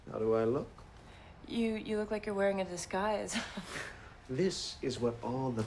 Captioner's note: chuckles